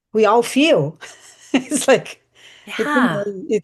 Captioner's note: chuckles